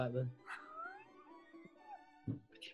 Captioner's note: sniggering